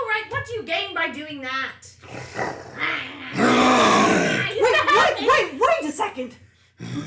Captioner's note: Ping Pong and Maklaw snarl at each other